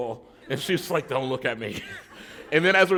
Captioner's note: laughter